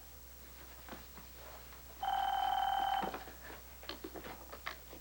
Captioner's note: telephone rings